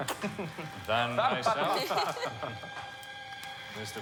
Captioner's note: all chuckling